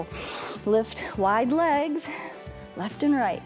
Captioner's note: inhales